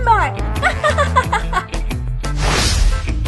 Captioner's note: laugh